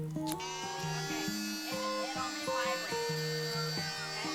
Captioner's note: buzzing